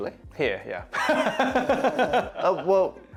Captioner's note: laughs